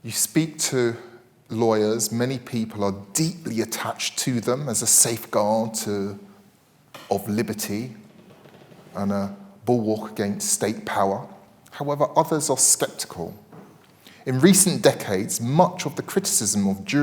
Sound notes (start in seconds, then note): none